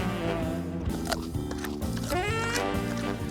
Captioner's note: crunching